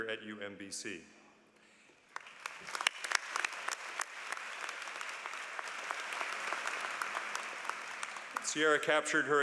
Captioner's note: applause